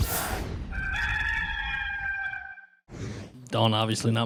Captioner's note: rooster crowing